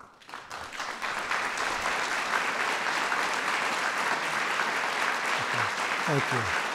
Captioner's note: applause